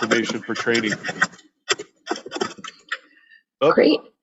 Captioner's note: microphone scraping